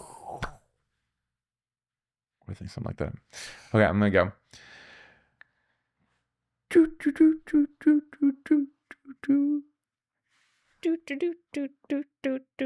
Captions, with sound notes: I think something like that. Okay, I'm gonna go. (humming)